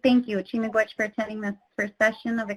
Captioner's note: speaks in foreign language